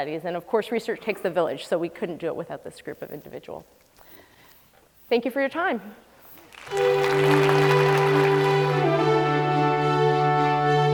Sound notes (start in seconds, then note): 6.4 applause